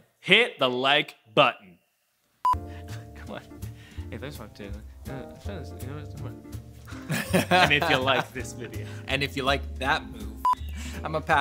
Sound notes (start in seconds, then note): 2.4 beeping; 6.9 laughing; 10.4 beeping